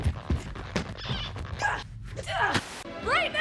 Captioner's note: grunts